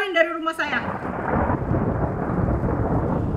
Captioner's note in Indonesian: Suara Petir